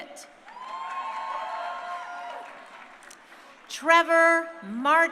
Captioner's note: crowd cheering